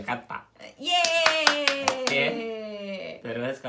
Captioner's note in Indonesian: tepuk tangan